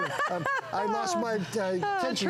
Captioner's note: laughter